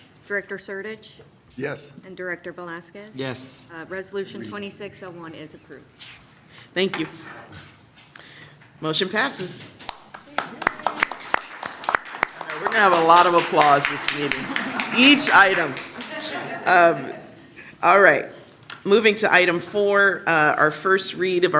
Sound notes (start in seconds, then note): 9.8 applause